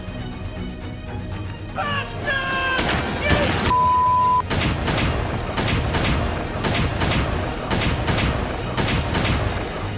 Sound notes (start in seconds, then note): 4.4 multiple gunshots